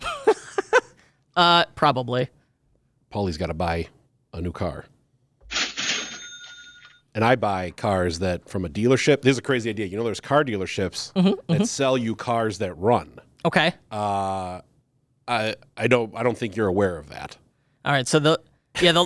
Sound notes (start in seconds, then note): 0.0 laughs; 5.5 cash register ringing